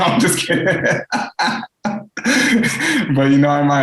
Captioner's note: laughs